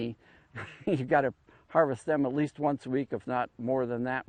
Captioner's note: laughs